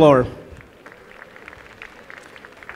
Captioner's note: applause